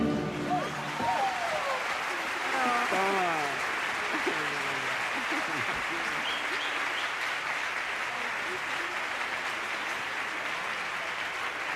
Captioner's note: applause